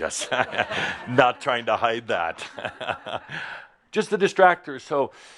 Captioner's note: some chuckles as he poses